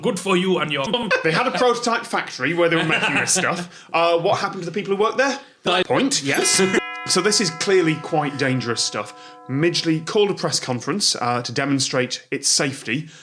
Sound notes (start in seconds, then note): 6.3 dong